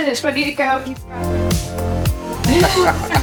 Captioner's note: laughing